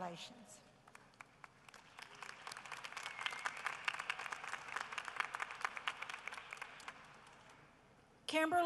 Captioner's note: applause